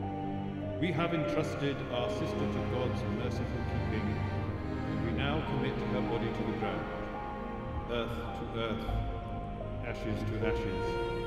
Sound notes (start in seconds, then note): 6.2 bells tolls